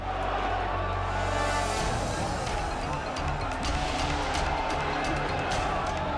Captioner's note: group chattering angrily; intense music